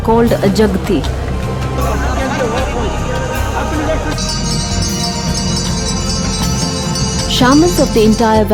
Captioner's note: bells jingling in unison